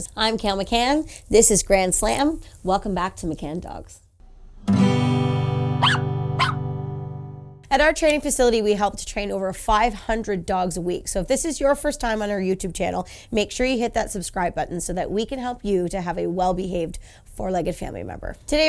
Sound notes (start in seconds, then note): 4.6 gentle music; 5.8 dog yips